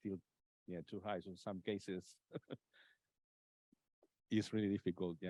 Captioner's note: laughs